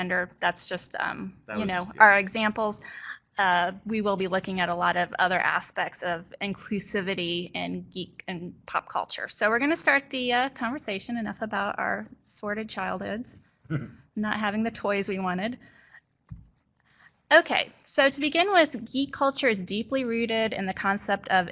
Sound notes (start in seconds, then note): 13.8 laughter